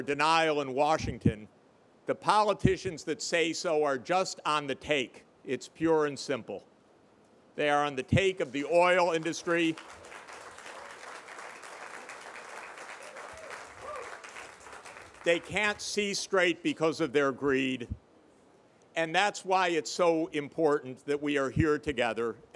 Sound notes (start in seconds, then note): 8.4 applause